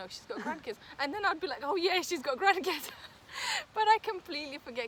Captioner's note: risos